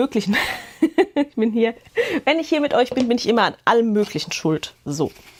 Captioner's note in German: Gelächter